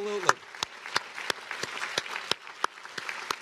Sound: applause

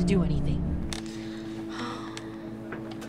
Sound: sighs

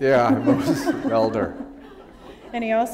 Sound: laughter

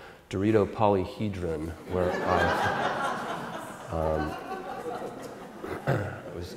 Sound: audience Laughter

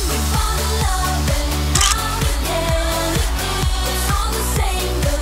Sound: camera clicks

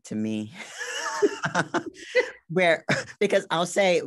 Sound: both laugh

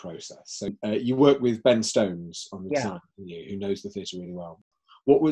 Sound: voice muffled

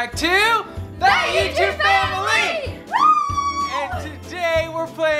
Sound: cheering

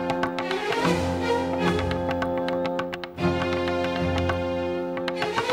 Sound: clopping sound

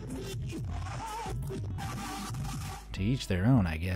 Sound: speakers blaring

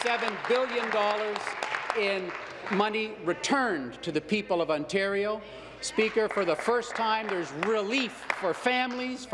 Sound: applause

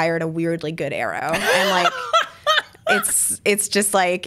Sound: laughs

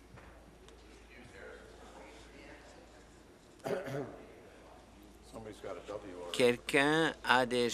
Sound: conversation din

